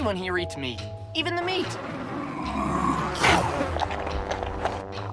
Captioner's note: growls and chomps food